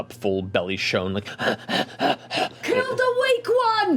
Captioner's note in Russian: тяжело дышит